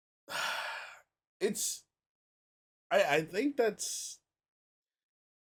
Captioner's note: sighs